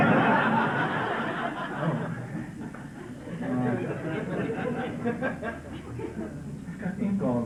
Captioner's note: laughter